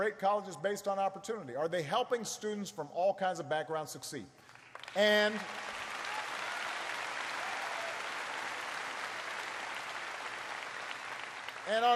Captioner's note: applause